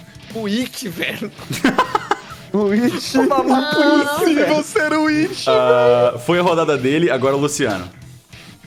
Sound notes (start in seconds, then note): 2.6 laughing; 2.7 laughs